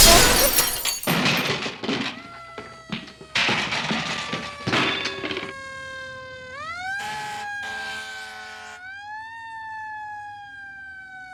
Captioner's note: explosion...then sirens